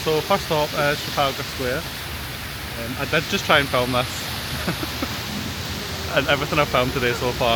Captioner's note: laughs